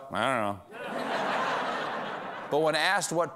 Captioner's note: laughter